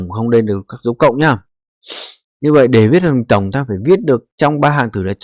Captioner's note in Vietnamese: khịt mũi